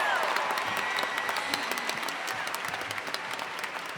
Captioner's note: applause